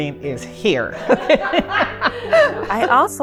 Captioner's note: laughing